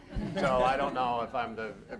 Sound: audience laughs

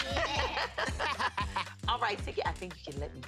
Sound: laughter

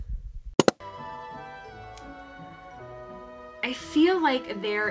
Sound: computer click

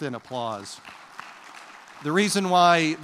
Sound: applause

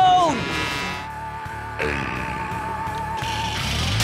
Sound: growls

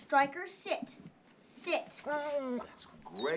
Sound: whining

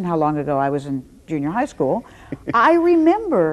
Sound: chuckles

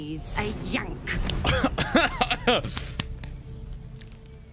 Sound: coughs in thirsty

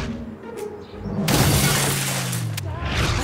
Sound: shattering

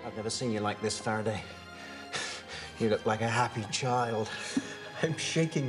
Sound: chuckling

